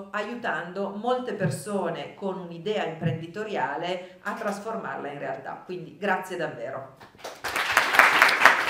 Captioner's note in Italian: Applauso